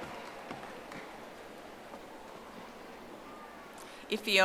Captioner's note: audience applauding